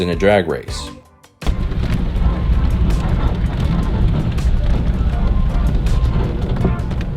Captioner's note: road noise